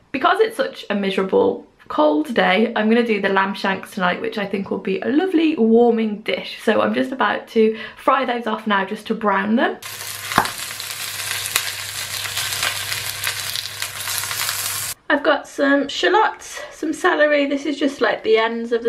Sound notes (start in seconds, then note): 9.8 sizzling pan sounds